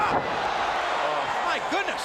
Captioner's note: crowd cheering